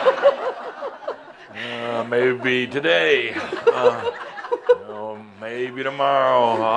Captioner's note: laughter; some chuckles